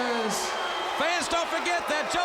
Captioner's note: crowd cheering